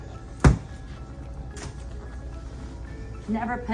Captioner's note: door bangs